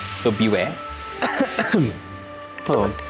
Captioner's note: coughs